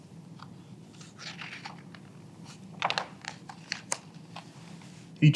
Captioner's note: pages rustling